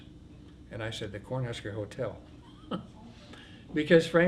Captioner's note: laughs